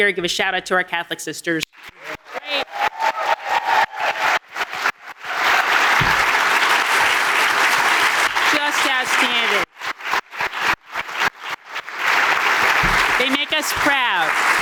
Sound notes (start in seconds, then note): 2.4 audience applauding